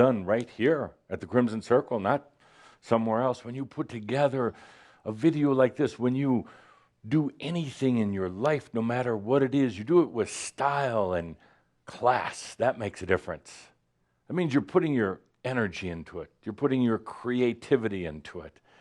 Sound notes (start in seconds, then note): none